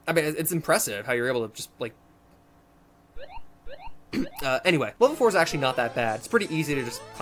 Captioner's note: clears throat